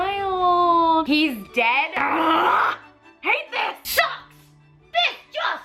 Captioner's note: exclaims